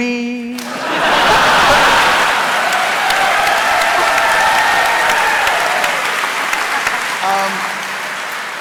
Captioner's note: laughter and applause